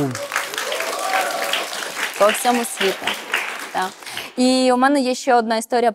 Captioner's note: applause